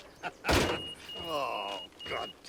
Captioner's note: beeper beeps